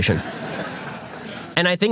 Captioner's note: audience laughter